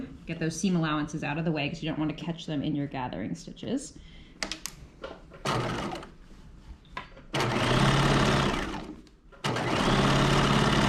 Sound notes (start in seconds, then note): 5.8 sewing machine whirring